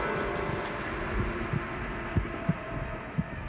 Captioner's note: heart beating; thunder